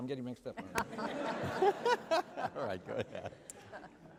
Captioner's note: laughter